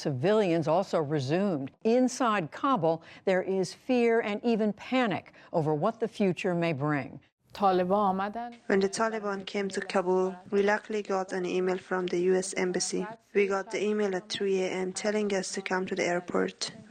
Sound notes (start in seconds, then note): 7.6 through translator